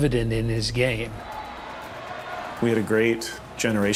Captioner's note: crowd cheering